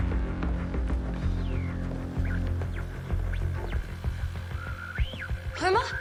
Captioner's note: radio squeals